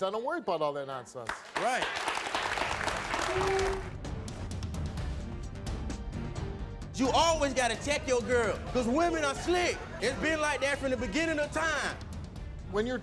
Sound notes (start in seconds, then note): 1.2 audience claps; 3.6 suspenseful music